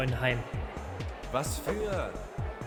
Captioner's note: angry crowd